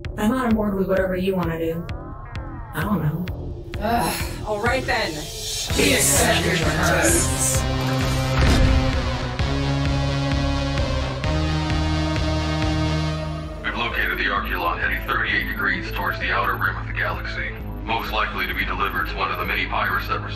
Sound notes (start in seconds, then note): 8.3 suspenseful synth music; 8.3 Omega Rah thumps